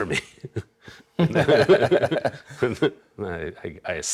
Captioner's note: both laughs